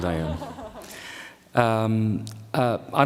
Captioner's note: laughter